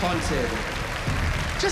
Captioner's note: applause